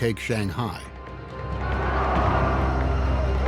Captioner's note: soldiers cheer